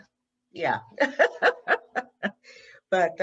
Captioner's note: laughs